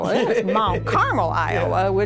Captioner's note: laughs